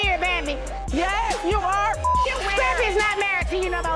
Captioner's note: beep